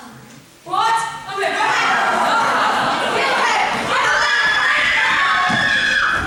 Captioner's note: screaming